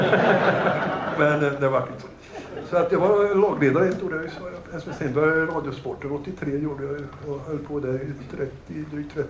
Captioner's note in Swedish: Skratt